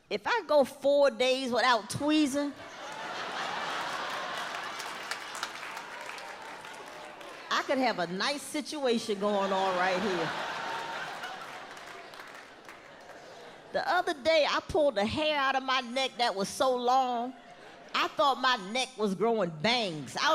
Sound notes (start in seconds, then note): 2.6 audience laughs